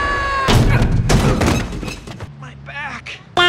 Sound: grunts of pain

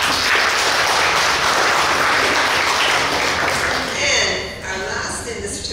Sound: clapping

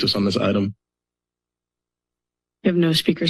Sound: silence

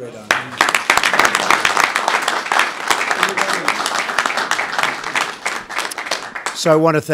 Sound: applause

